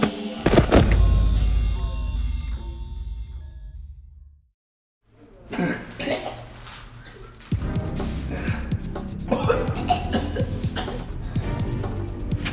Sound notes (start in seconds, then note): 5.4 coughs; 9.2 vomits